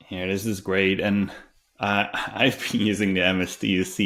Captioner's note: chuckles